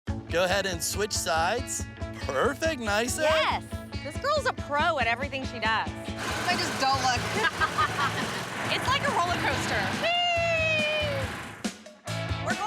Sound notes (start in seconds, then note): 7.2 both laughing